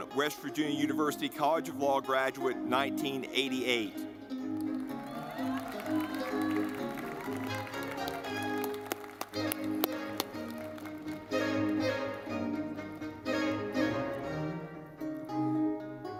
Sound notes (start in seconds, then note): 4.0 lively music; 4.4 audience clapping